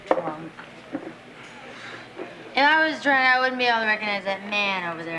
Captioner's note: exhales